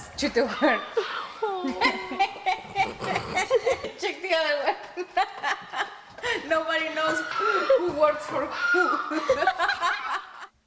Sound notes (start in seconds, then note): 2.5 laughing; 9.1 laughing